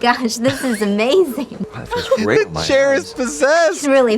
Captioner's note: laughs